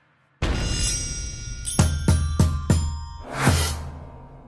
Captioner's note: chimes